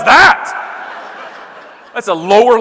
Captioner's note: audience laughing